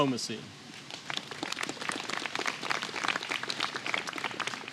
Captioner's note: applause